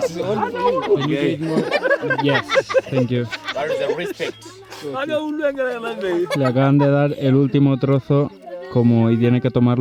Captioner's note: laughs